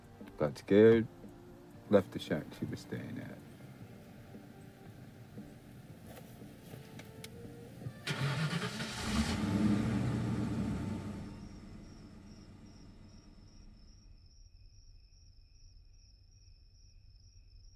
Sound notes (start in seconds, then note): 8.2 car engine starting; 11.6 crickets chirping